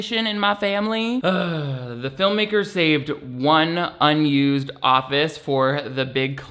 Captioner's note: sighs